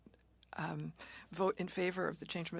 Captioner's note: speaking French